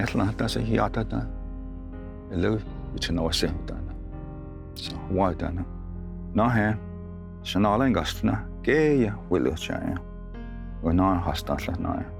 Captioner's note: tells story in Cherokee language